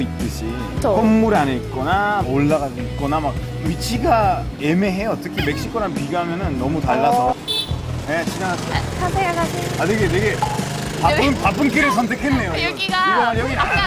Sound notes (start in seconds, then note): 10.3 honk!